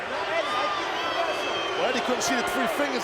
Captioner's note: audience shouting